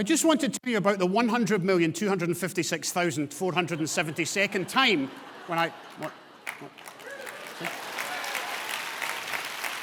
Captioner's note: audience laughter and applause